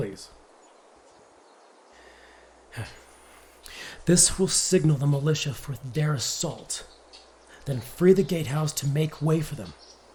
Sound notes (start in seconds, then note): 2.7 sigh